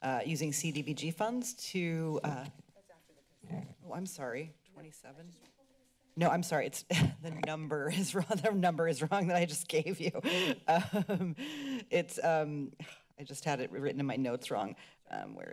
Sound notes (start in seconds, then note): 2.5 whispering; 6.9 giggles; 10.5 laughs